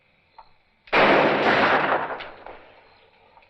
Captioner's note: gunshot